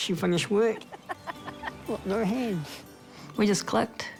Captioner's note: chuckles